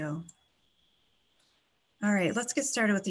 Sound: clicking

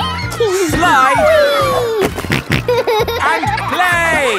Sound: giggles; snorting

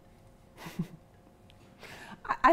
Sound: chuckles

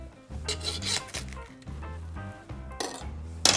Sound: sawing sound

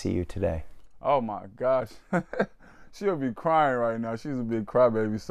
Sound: laughter

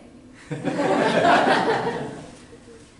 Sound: laughter

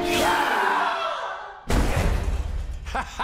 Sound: screams; thud

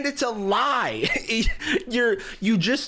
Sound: laughs

